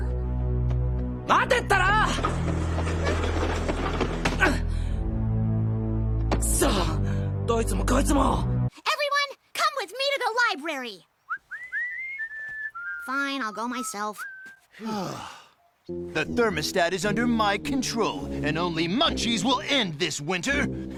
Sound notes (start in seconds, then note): 11.2 whistling; 14.7 sighs